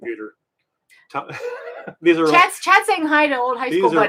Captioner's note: laughing